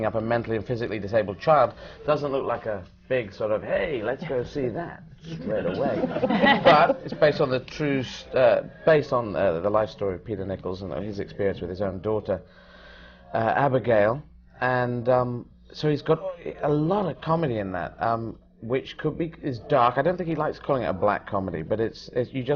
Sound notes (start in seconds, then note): 5.4 laughter